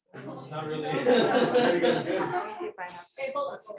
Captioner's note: laughter